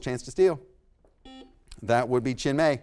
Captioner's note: buzzer sounds